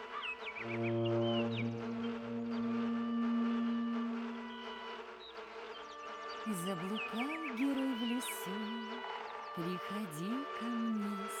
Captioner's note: female voice